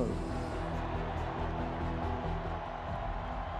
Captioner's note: cheering